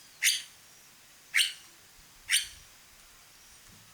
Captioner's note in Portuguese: Pássarro cantando